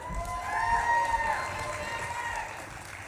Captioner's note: audience claps and cheers